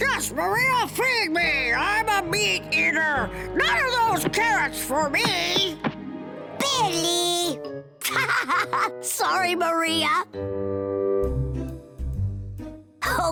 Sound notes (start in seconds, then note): 8.0 laughing